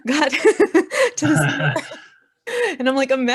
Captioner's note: laughing